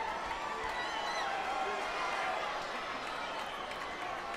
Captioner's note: audience cheers